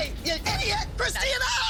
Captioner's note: screaming